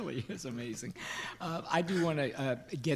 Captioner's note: board members giggling